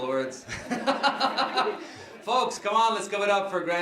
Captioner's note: laughing